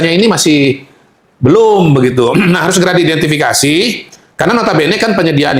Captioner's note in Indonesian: berdehem